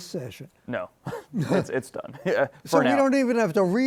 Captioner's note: chuckles